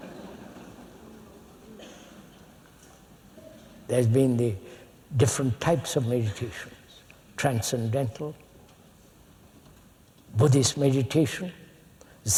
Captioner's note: laughter